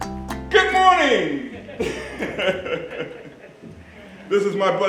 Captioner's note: laughing